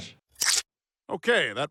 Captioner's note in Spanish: tijeras cortando